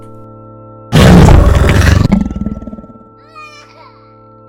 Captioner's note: alien roaring; baby crying